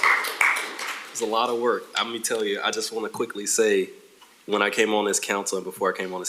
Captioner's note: applause